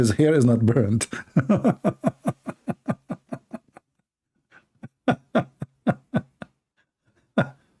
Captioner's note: Ketawa